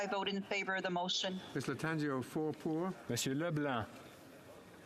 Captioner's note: speaking French